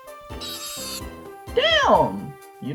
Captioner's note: intense high pitched squealing